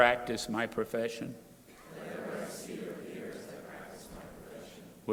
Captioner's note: crowd repeating